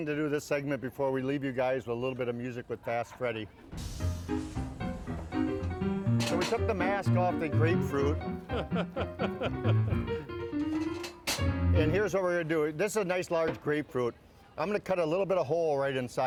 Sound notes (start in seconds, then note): 4.7 fast Ragtime piano music; 8.4 laughter